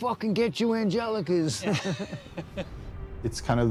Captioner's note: laughter